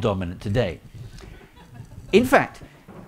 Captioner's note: audience laughing